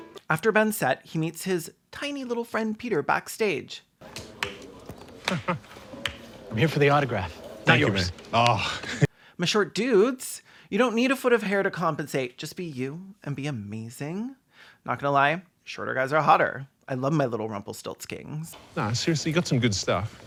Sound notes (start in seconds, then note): 4.1 slow clapping